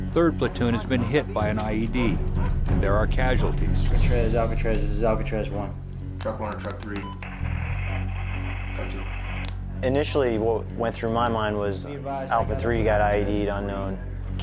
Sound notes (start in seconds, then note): 4.1 marine on radio; 7.3 radio static